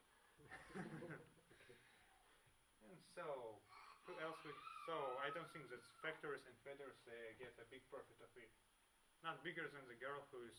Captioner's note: laughs